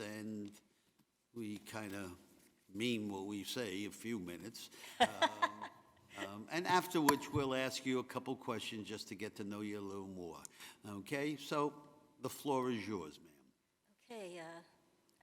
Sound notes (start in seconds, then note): 4.8 laughter